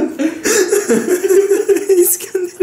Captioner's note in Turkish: ağlamalar